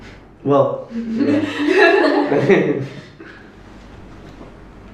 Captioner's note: laughter